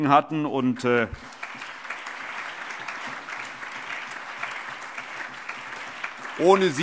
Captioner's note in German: Allgemeiner Beifall